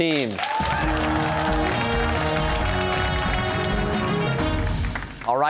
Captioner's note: cheers and applause